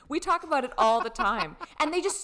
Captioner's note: laughing loudly